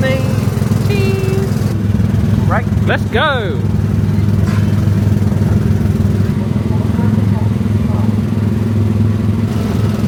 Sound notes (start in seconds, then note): 5.1 engines puttering